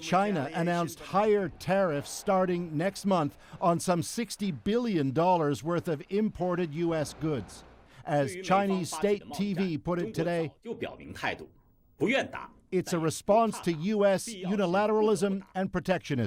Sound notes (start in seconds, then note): 12.5 speaking chinese